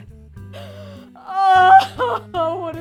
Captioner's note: crying